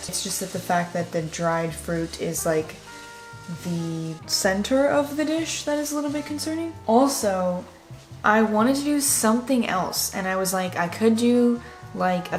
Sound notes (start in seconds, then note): none